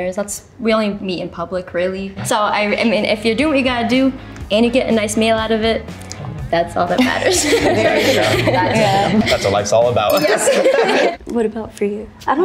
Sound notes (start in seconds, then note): 7.0 everyone laughs; 10.0 glasses clink